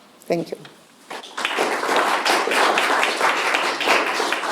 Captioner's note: applause